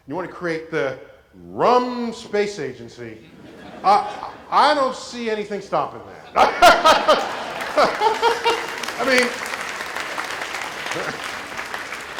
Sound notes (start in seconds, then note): 5.9 laugh; 6.8 applause